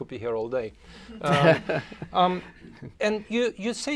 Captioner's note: laughs